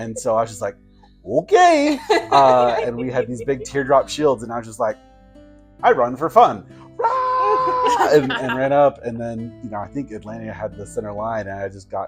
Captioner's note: shouting